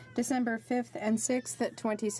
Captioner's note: speaking French